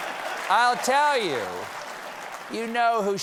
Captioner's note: laughter